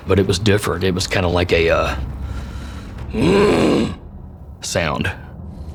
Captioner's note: roar